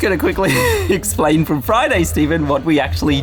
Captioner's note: laughs